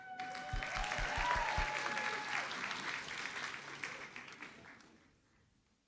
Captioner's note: audience cheers and applauds